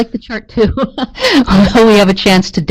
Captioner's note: laughs